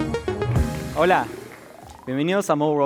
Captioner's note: speaking spanish